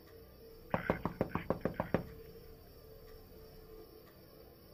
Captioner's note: knuckles rapping